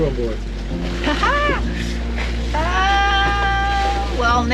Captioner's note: laughs